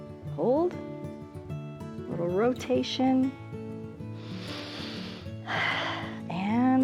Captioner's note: inhales and exhales